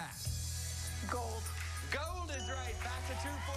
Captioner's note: cheers and applause